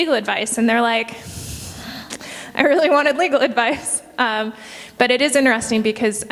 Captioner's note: huffs